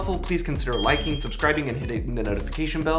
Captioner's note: bell dings